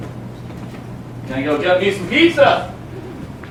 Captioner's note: none